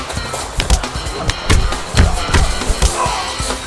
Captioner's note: punches thudding; thug groaning